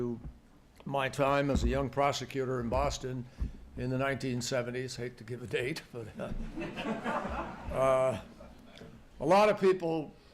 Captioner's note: laughter